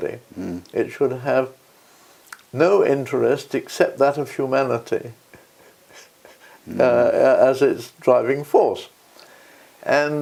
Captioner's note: laugh